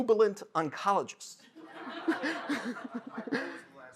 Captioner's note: laughter